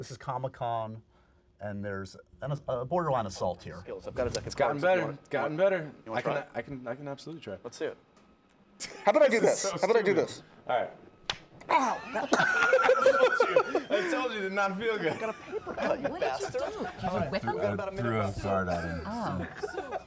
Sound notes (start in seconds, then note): 11.2 pop